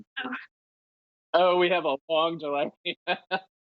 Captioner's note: laughing